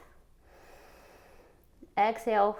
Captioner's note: exhales; inhales